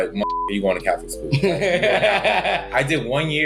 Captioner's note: laughs